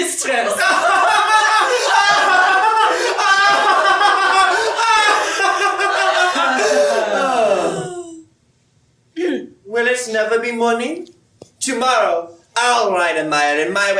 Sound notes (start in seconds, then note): 0.3 laughter